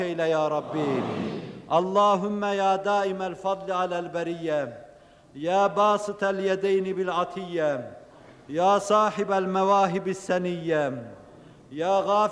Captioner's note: reciting prayer